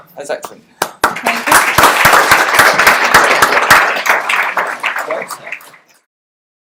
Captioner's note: applause